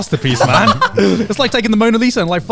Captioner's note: laughing